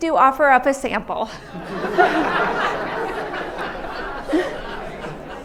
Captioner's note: laughter